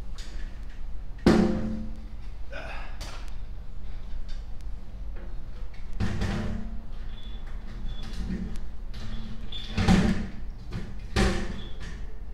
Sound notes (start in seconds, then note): 1.2 hollow metallic clang